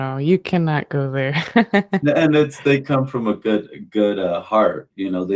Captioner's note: laughter